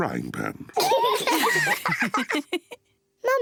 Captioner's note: all laugh